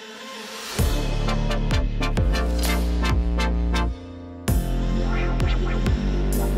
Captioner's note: upbeat music; sound effect scribbling; drum music